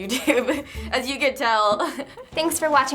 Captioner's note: laughs